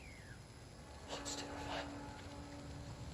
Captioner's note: whisper